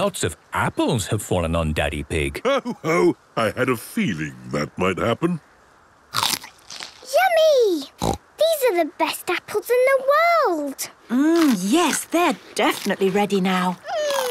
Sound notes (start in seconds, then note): 6.1 crunch!; 8.0 snorting